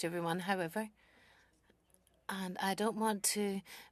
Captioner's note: speaking French